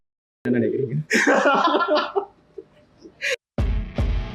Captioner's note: laughing